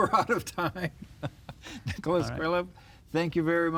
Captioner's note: laughs